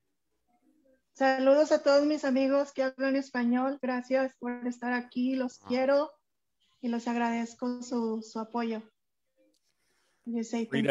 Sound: speaks Spanish

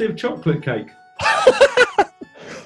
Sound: laughing

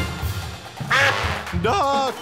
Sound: quacking

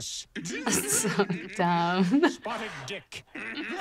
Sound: laughs

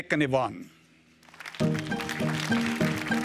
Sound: applause

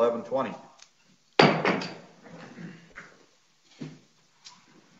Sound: gavel hitting

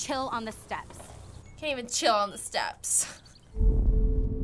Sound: mocking

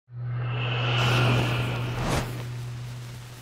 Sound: deep swooshing

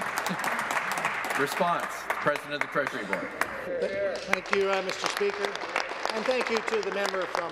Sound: applause

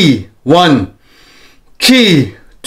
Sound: inhales

